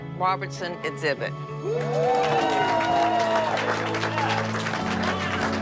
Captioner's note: cheering and applause